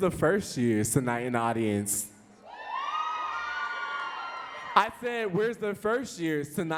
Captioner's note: audience cheering, but lackluster